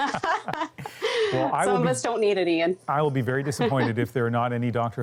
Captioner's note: laughter